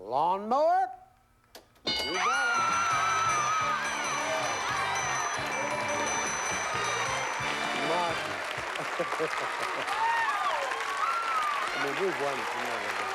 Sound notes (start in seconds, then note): 1.8 applause; 7.6 laughs